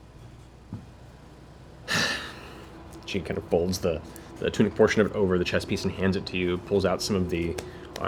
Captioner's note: heavy sigh